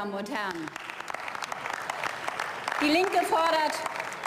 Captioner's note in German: Beifall